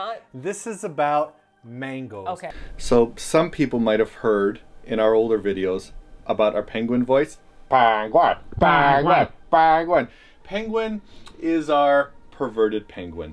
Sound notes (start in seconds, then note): 7.6 muffled naselly voice, joins in